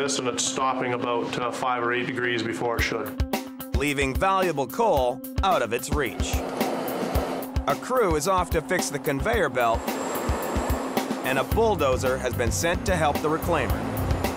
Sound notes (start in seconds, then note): 6.1 car engine revving; 9.7 bulldozer engine revving